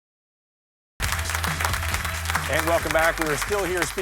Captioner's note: audience applauding